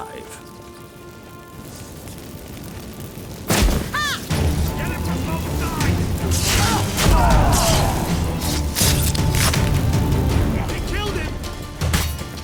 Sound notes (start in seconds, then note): 3.4 flames pop; 5.8 Aard booms; 6.9 witch hunters groan